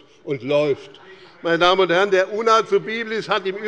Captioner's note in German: Heiterkeit bei dem BÜNDNIS 90/DIE GRÜNEN und der CDU - Zurufe von der SPD